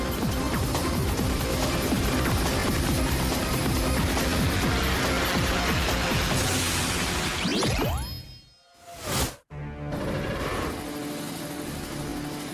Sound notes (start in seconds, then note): 2.0 chopper blades whirring